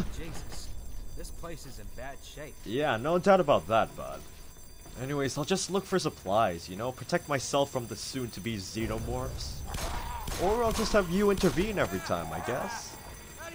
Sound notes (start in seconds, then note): 8.8 gunfire; 9.6 zombie snarls